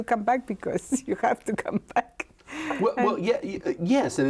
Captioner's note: laughs